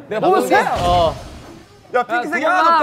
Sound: suddenly very noisy background

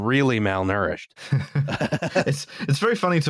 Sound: laughter

